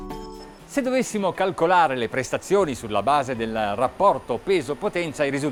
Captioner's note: speaking Italian